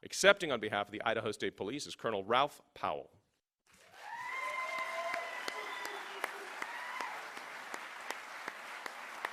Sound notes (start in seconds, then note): 3.7 cheering and applause